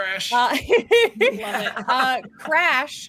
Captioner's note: laughs